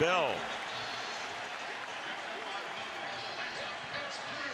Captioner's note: pa announcement